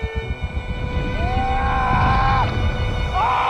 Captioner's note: screaming